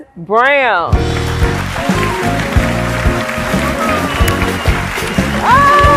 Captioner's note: applause